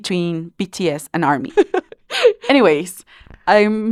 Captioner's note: laughs